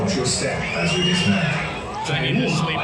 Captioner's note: children scream